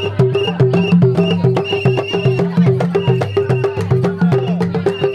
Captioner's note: whistle and unison